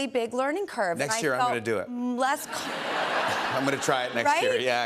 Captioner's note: laughter